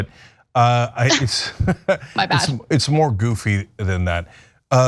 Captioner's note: laugh